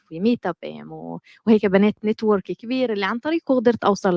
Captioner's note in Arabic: لغة أجنبية